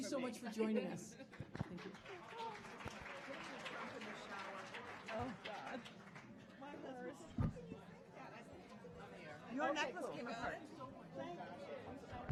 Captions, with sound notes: Thank you so much for joining us. [audience applauding] [audience chatting]